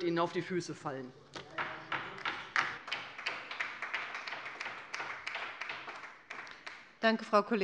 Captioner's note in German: Beifall bei der LINKEN